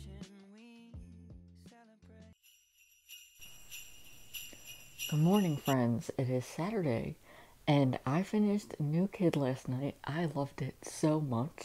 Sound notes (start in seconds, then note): 2.7 bells ringing